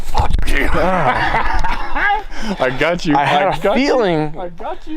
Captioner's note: laughing